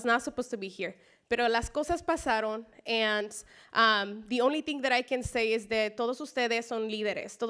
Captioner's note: spanish speech